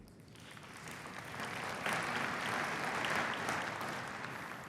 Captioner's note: applause